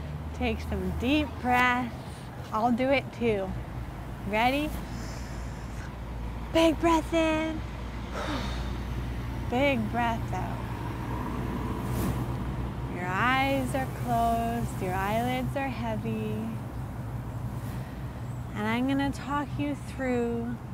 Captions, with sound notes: Take some deep breaths I'll do it too Ready? (Inhales) Big breath in (Exhales) Big breath out Your eyes are closed, your eyelids are heavy And I'm gonna talk you through